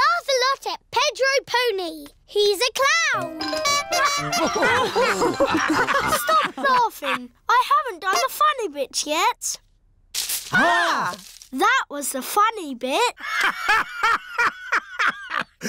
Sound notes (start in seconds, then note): 3.4 toots horn; 3.7 all laugh; 13.3 laughs